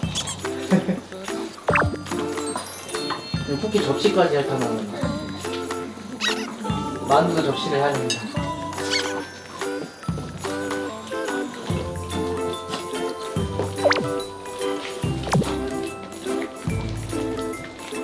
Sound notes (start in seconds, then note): 5.6 laugh